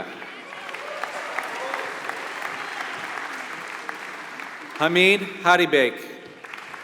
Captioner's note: applause